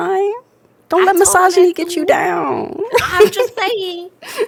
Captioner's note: laughs